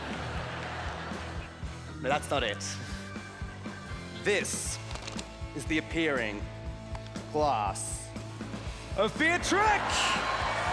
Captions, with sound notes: But that's not it. This is the appearing class of Beatric. [cheering]